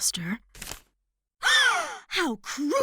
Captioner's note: gasps